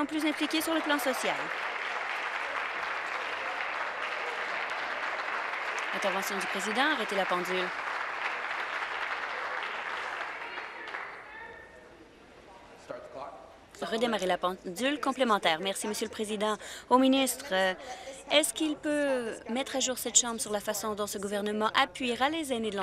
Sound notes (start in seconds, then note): 2.8 applause